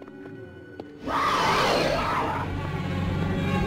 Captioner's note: beast roaring; creepy music